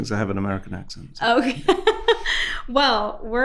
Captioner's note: laughs